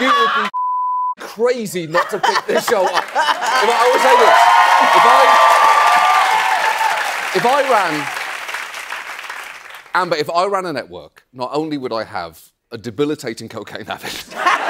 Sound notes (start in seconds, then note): 2.6 cheering and applause